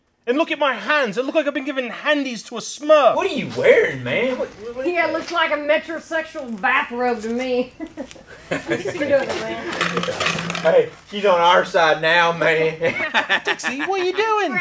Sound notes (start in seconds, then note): 7.7 laughter